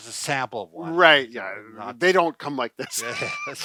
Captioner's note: laughs